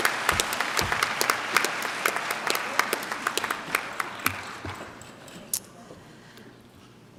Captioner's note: clapping